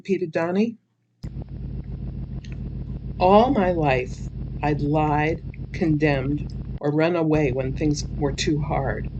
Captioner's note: sound: engine idle